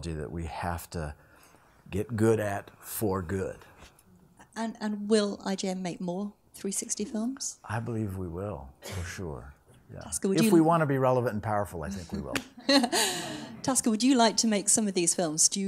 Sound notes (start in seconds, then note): 11.9 people laughing